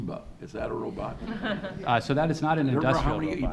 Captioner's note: audience laughs